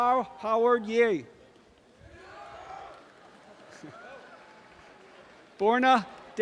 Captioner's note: audience cheering and applause